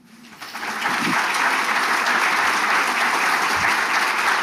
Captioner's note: audience applauds